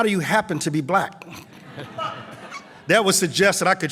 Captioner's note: laughter